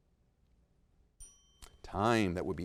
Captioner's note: bell dings